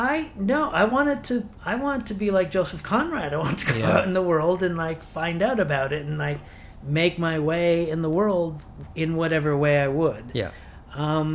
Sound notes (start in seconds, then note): 3.5 chuckles